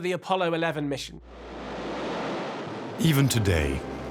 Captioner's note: rocket blasts off